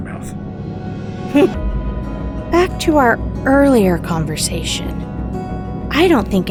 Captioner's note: giggles